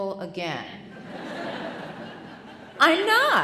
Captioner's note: audience laughing